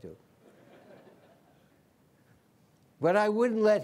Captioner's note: laughter